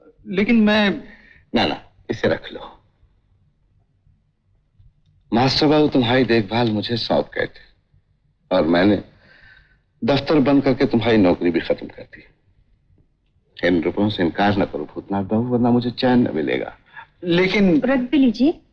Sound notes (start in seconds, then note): none